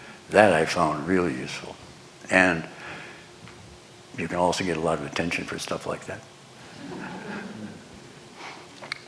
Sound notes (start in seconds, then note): 6.8 laughter